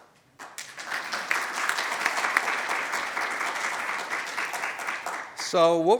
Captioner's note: applause